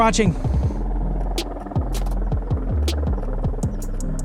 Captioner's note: helicopter noises